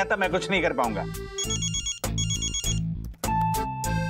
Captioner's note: phone ringing